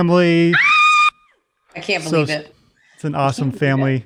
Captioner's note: screaming